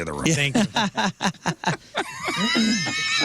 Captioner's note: laugh